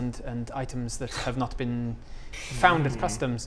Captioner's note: scoffs in disapproval